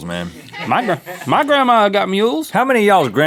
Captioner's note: crew laughs